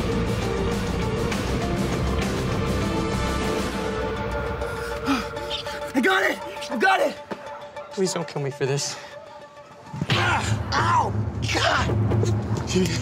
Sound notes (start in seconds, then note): 4.8 Scott sighs; 9.9 Stiles groans